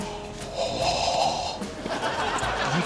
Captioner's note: gasps; laughter